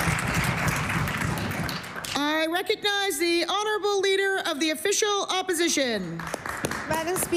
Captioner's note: applause